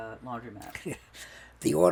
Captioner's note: laughing